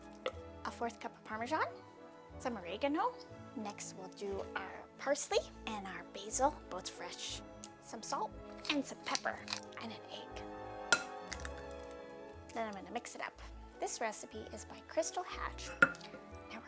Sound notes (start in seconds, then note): 10.8 egg cracking